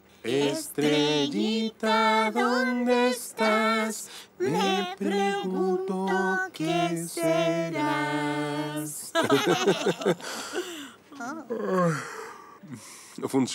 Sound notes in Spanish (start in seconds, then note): 9.1 risas